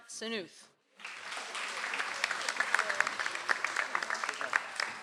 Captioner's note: audience applauds